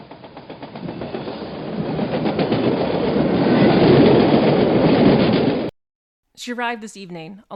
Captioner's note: sounds of an incoming train and a train station